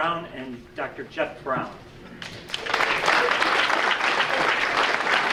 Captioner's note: audience applauding